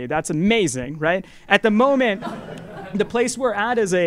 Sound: laugh

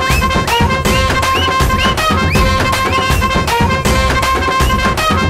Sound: whistling

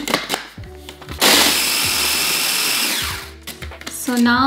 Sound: mixer grinding

